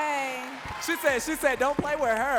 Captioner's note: audience cheering and clapping